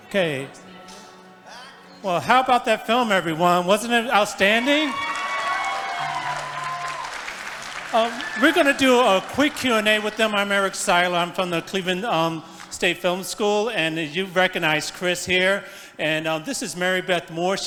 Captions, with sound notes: - Okay, well, how about that film everyone? Wasn't it outstanding? (congregation applauding) We're gonna do a quick q&a with them. I'm Eric Siler, I'm from the Cleveland State Film School. And you recognize Chris here. And this is Mary Beth Moore,